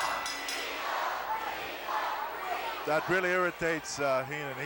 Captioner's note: bell rings